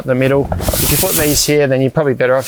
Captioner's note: fabric hissing